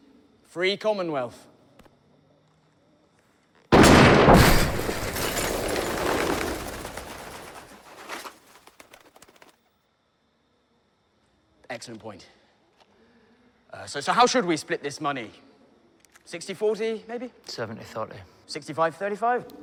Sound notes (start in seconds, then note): 3.7 gun fires; 3.8 ceiling patters; 5.5 wings flaps